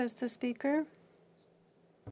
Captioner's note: speaking French